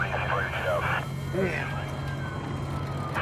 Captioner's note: siren wailing